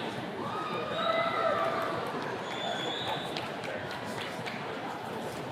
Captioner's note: attendees cheers and claps